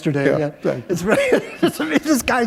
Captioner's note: laughter